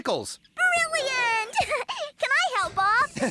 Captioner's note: giggling